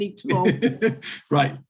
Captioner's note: laughing